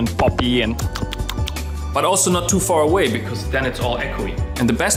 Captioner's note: smacks lips